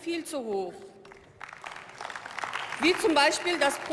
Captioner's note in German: Beifall